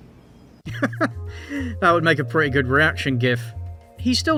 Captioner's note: laughs